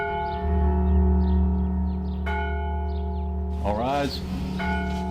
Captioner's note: church bells ringing